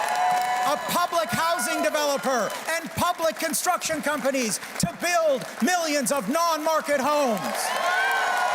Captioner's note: cheers and Applause